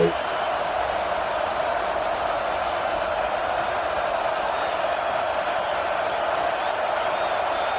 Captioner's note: crowd Noises